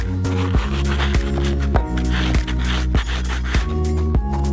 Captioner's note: foot scraping board